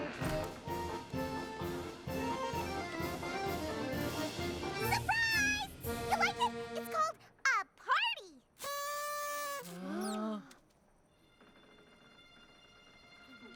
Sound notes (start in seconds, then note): 8.6 toot!; 9.9 all gasp